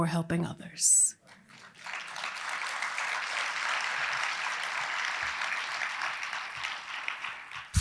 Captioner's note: applause